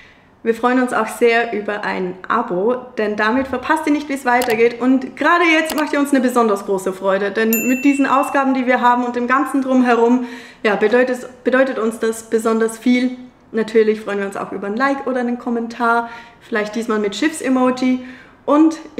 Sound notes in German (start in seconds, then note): none